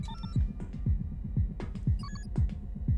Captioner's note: clicks, beeps